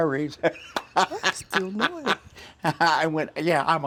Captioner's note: laughing